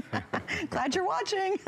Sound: laughter

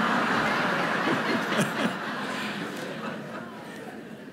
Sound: laughter

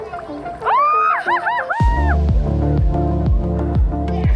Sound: excited screaming

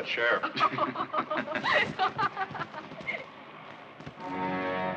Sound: both laughing; tense, dramatic orchestral music

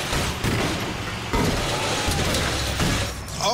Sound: even more smashing; more smashing

